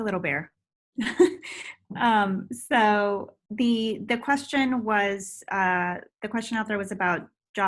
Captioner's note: chuckles